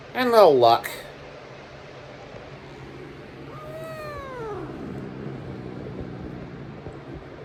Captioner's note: growls